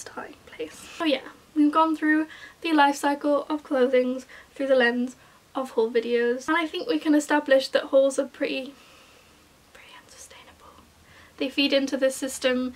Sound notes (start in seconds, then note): 1.8 whispers; 10.0 whispers